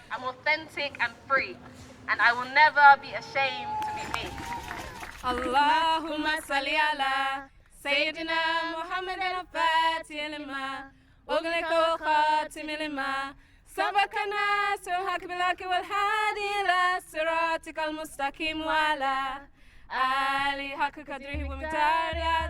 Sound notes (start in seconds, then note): 4.6 cheering & applause